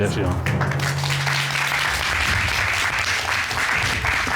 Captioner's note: applause